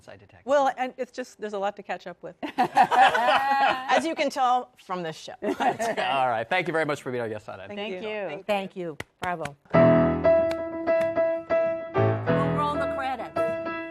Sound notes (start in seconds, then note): 4.0 laughter